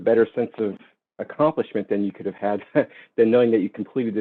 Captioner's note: laughing